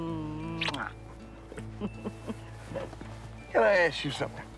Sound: chuckling

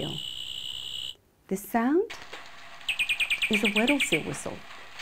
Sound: seal chirping

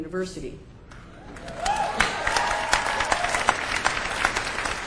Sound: applause

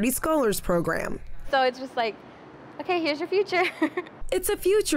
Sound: giggles

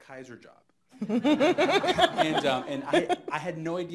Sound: laughing

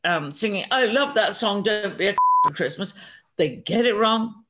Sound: beep

